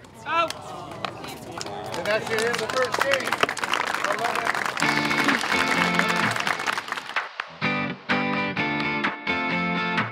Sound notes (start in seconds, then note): 1.4 applause